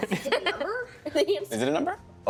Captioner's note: laughing